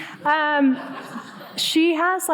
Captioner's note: audience laughing